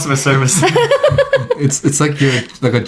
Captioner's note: laughing